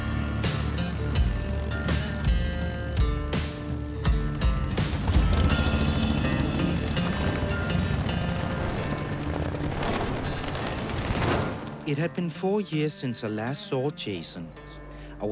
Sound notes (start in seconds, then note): 0.1 engine purrs; 5.1 engine sputters; 9.8 grit rustles